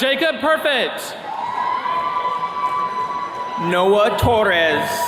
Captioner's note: attendees cheering